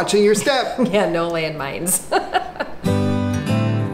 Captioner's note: laughing; upbeat music